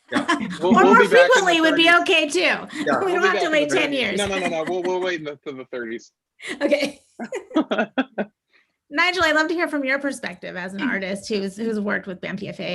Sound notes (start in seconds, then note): 7.2 laughter